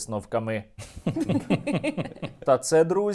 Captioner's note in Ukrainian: сміх